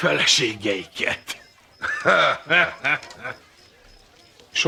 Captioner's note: chuckles